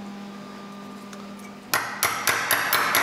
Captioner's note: banging